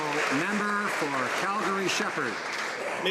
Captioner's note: some Applause